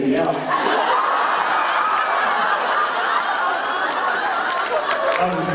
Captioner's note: laughter